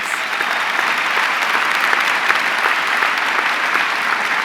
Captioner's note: audience clapping